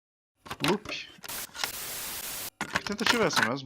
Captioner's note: static Noise